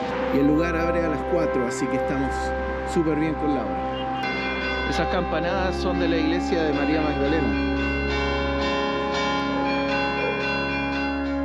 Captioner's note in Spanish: campanas